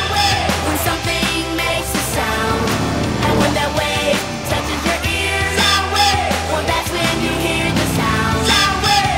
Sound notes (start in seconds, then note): 4.8 sound wave!